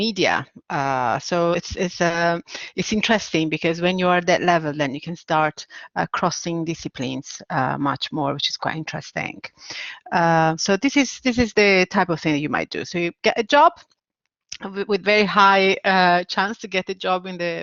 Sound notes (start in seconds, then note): none